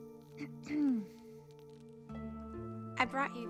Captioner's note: lee clears throat